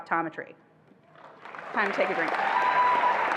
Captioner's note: attendees applauding and cheering